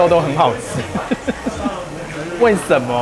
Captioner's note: satisfied laughter